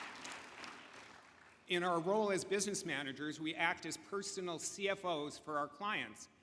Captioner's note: applause